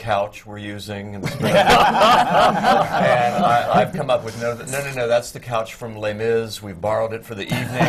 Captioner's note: laughter